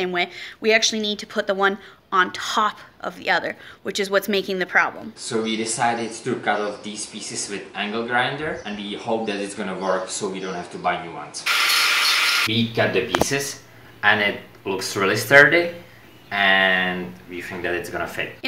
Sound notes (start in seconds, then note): 11.4 construction sounds